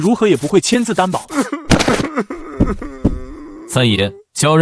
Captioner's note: chuckling ominously